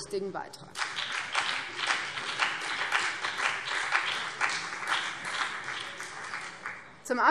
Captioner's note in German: Beifall BÜNDNIS 90/DIE GRÜNEN und vereinzelt CDU